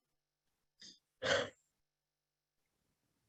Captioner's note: sighs